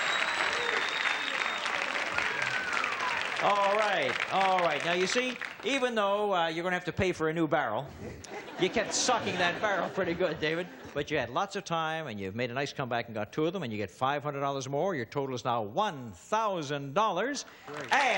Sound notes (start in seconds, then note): 0.0 applause and cheering; 8.0 laughter; 17.6 applause